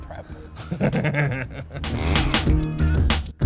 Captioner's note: laughs